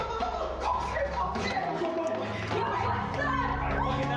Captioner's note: shouting